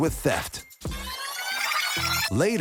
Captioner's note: video rewinding